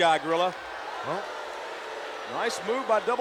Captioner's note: crowd booing